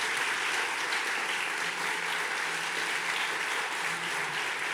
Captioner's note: audience clapping